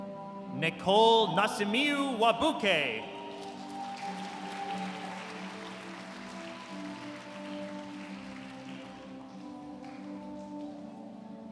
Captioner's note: applause